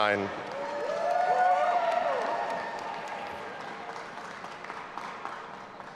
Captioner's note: audience applauding and cheering